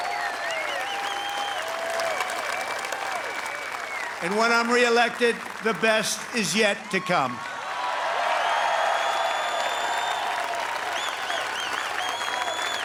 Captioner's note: applause